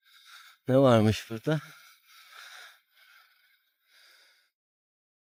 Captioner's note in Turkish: iç çeker